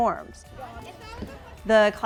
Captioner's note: children talking